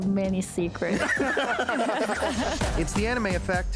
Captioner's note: everyone is laughing